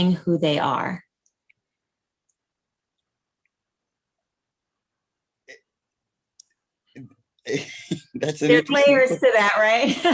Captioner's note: laughter